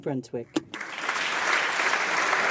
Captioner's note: speaking French